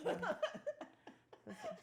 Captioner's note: laughing